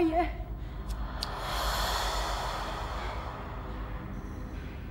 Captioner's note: entity breathing deeply